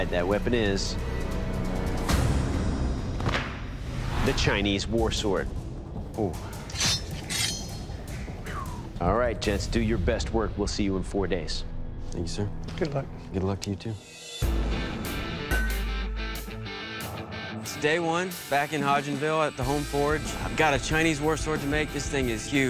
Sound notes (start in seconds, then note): 0.3 intense music; 6.6 blade clanking; 14.0 rock music